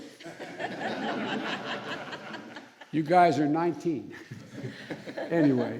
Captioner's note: laughter